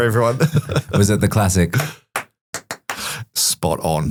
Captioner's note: claps in a sequence